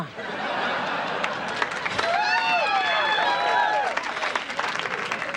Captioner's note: audience applause